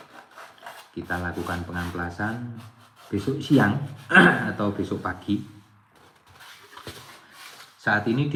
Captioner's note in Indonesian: berdehem